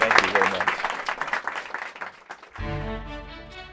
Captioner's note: applause